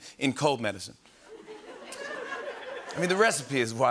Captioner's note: laughter